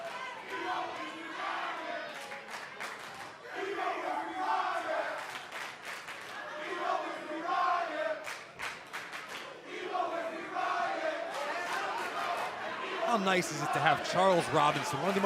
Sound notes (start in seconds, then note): 3.6 fans chanting